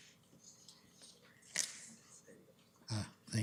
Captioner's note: whispering